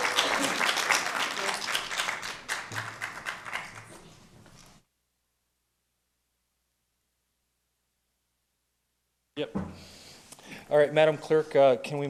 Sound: applause

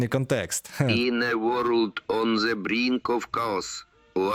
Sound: speaking with an accent

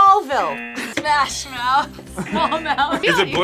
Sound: buzzer rings; buzzer; laughs; buzzer

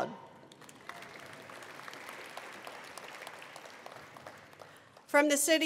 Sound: attendees applauding

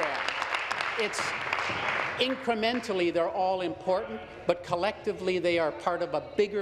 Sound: applause

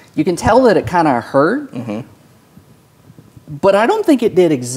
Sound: none

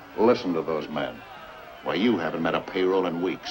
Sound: crowd shouting

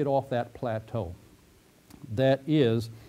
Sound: pause

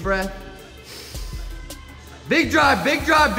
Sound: inhales

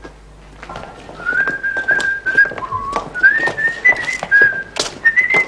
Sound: Bunny whistling

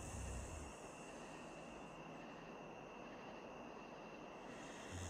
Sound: light snoring

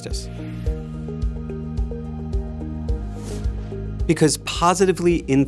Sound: air whooshing

